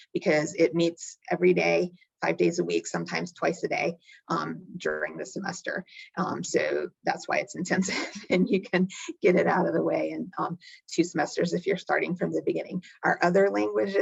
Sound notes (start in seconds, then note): 7.8 chuckling